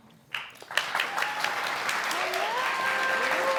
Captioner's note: audience clapping